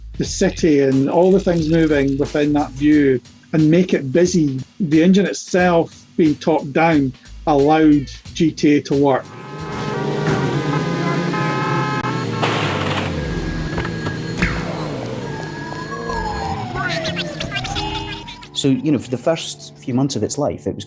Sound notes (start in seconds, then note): 9.6 horns blaring; 16.0 sirens blaring